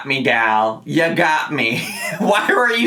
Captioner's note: laughing